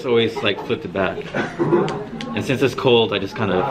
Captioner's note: students laugh